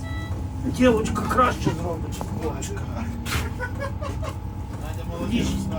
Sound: laughs

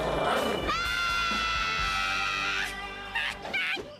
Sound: animal growling; Lisa screaming; Lisa laughing

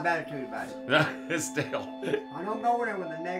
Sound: laughs

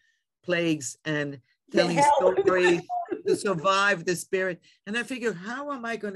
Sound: laughs

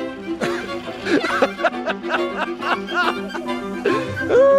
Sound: laughing hysterically

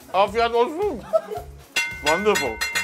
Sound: laughing; clattering

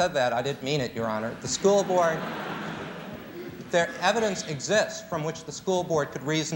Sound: laughter

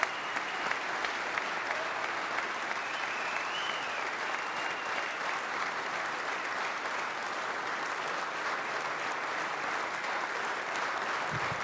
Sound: cheering and applause

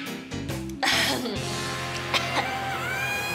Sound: cough cough

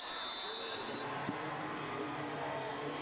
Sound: whistle

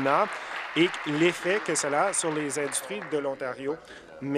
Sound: applause

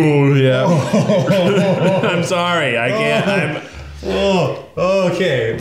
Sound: burps; groans in disgust

